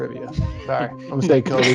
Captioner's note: laughter